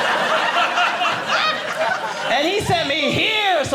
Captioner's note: audience laughing